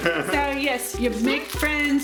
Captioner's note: laughter